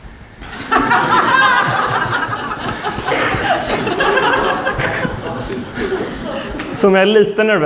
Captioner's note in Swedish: skratt